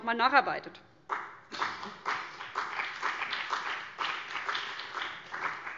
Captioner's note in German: Beifall BÜNDNIS 90/DIE GRÜNEN